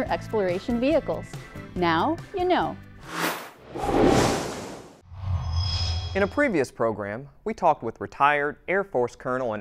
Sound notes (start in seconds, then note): 3.0 sound Effects